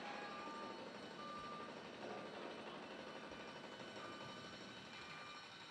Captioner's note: loud construction noises